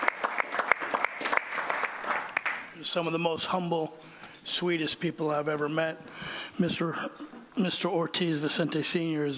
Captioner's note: applause